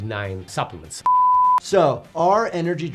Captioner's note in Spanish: suena un pitido